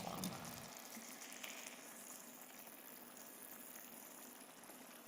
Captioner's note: food simmering